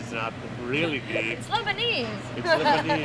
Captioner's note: laugh